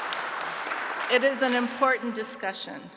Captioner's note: audience applauding